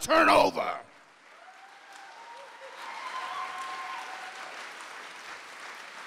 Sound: audience cheers and applauds

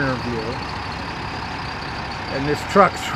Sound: trucks engine roaring

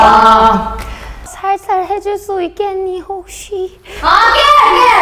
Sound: Impersonating William

